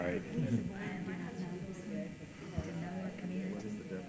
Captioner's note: group chatter